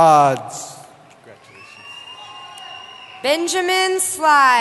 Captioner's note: cheering